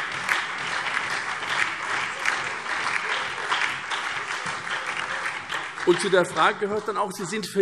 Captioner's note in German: Beifall SPD, CDU, BÜNDNIS 90/DIE GRÜNEN, Freie Demokraten und DIE LINKE